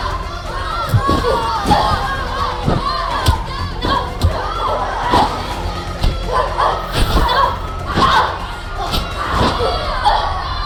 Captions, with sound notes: Sasha, Sasha, Sasha! (children shouting) (fighters grunting)